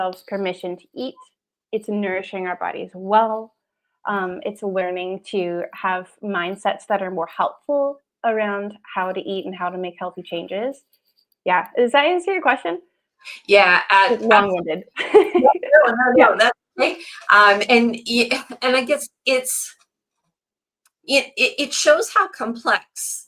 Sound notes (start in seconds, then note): 14.1 laughs